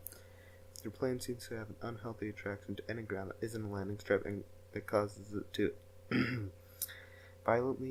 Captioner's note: clears throat